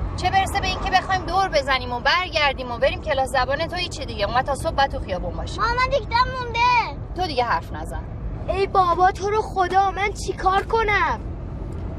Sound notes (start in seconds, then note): none